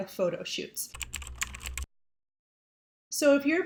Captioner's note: keyboard clicking